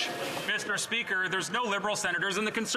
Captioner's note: some Applause